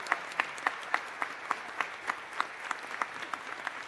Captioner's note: applause